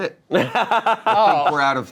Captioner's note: laughs